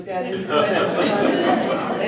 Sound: laughter

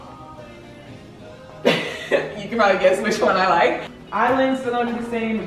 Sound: laughs

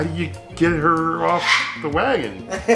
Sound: bird squawking loudly; laughs loudly

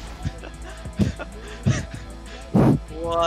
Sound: laughing

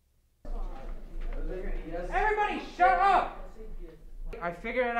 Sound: people chattering

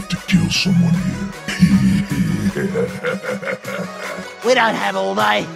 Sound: evil laughter

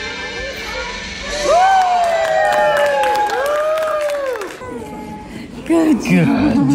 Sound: people cheering

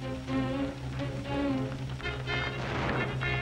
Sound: gunshots

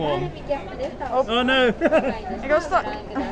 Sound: laughs

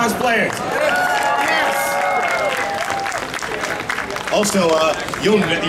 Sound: audience cheering

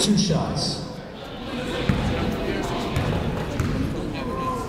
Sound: chatter

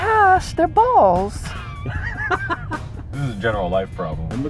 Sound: laughter

